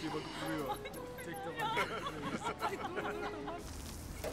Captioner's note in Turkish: Gülme sesleri